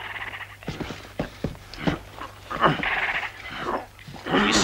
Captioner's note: crying out